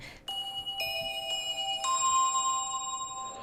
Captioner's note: alarm blares